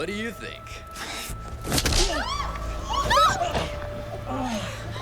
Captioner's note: people screaming